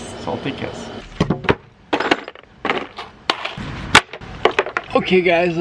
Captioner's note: wood and tools clattering